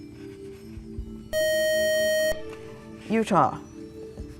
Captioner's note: beeping